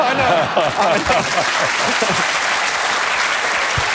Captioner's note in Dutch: applaus